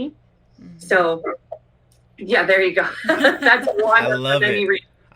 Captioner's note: laughter